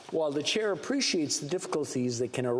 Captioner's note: speaking French